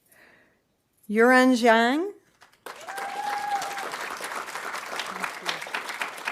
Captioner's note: audience applauding